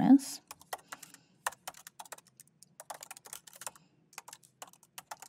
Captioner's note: keyboard clanking